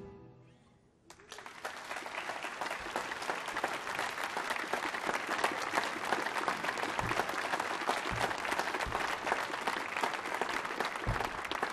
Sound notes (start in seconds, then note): 1.5 applause